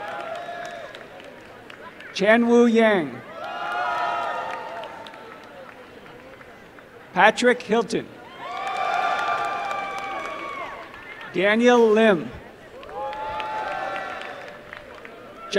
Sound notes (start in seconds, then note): 3.2 applause and cheering; 8.2 applause and cheering; 12.7 applause